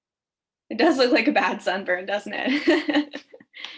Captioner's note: laughing